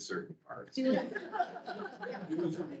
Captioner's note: people laughing